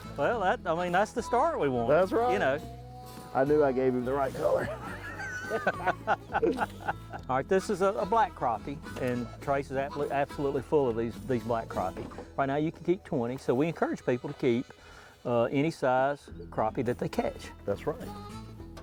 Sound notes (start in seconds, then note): 4.3 laughing